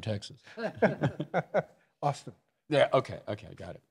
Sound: laughs

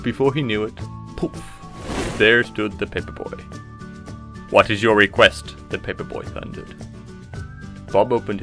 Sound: poof

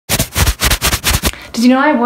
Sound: rustling

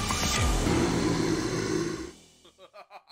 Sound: growl; laughing

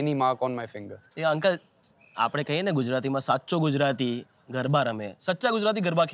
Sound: in Gujarati

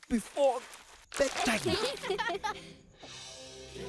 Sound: laughing

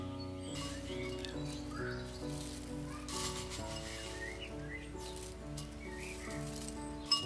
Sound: tea rustles, spoon clinks against bowl

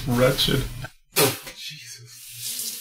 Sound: spits

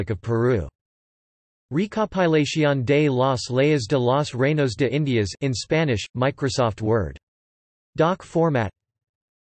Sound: in Spanish

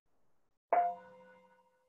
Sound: chime

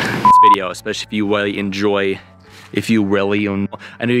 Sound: beep

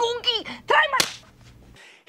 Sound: slap!

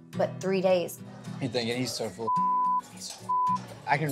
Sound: beep

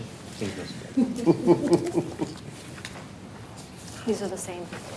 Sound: laughs

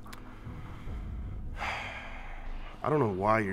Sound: sighs

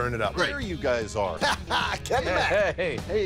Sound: laughs

